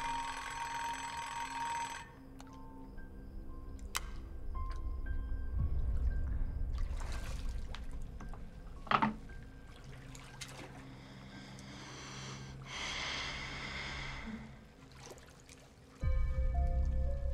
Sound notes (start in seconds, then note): 0.0 alarm rings; 9.2 bathwater babbles; 12.7 Nancy Exhales Deeply